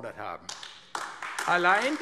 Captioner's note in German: Beifall AfD